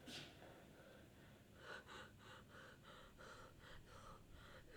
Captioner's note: Catherine panting